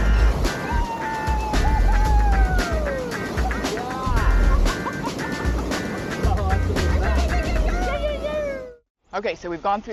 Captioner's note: laughter